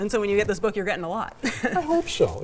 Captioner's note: laughs